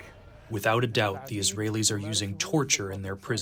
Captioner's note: through translator